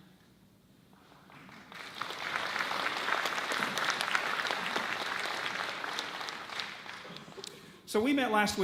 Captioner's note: audience claps